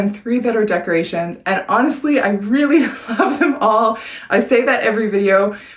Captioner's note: chuckles